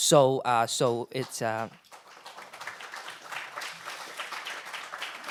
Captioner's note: audience applauds